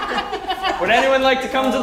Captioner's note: laugh